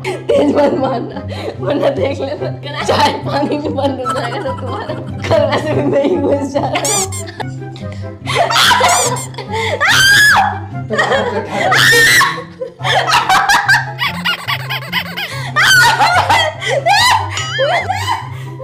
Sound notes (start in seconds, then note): 9.8 screaming